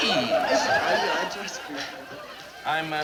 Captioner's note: muttering in fake foreign language